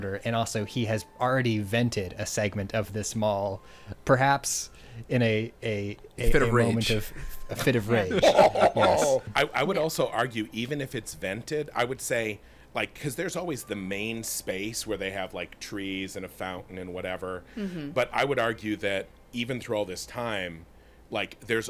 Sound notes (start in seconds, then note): 7.5 laughing